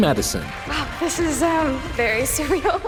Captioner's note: laughs